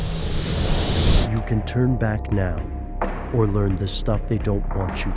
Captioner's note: voiceover